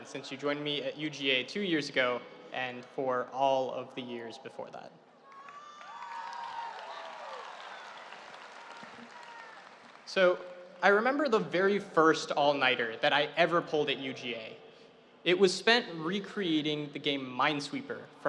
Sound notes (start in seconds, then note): 5.2 audience cheering